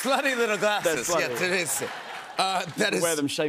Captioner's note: laughter